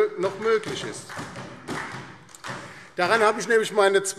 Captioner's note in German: Beifall DIE LINKE und SPD